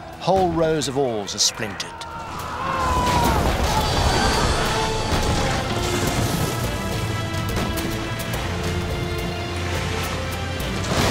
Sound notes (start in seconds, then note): 0.8 soldiers shouting; 3.0 ships ram; 5.3 ships ramming; 8.0 dramatic orchestral music